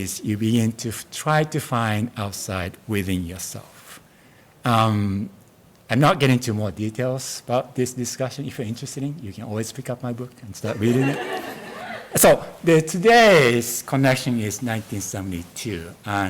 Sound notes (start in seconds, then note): 10.7 audience laughs